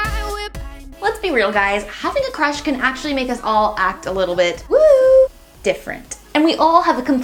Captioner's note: whistling